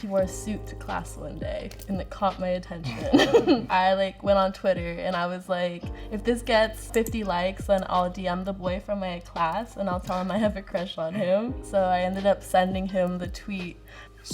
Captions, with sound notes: - He wore a suit to class one day and it caught my attention. (both laugh) I like went on Twitter and I was like, "If this gets 50 likes, then I'll DM the boy from my class, and I'll tell him I have a crush on him." So I ended up sending him the tweet.